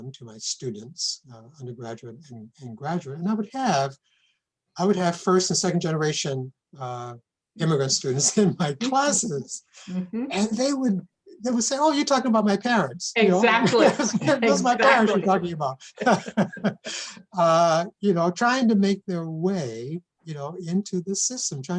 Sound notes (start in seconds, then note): 16.2 laughs